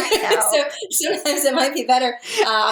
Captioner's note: laughs